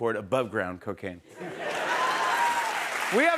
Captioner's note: cheers and applause